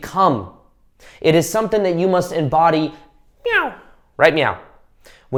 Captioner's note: imitating cat